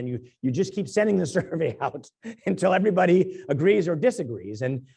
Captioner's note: laugh